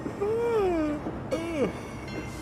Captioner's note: yawn